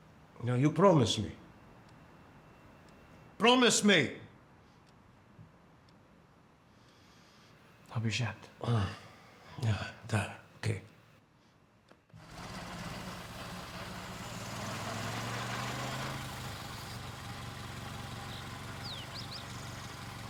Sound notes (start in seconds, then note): 7.8 non-english speech; 15.9 birds chirping